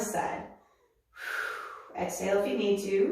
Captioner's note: exhales